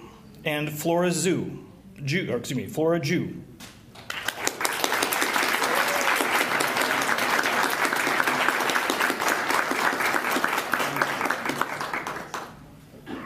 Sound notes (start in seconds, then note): 2.3 applause